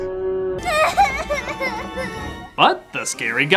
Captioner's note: crying